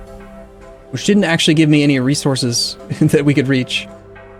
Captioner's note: chuckles